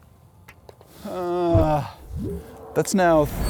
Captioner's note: groans